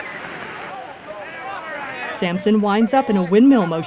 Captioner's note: baseball crowd noise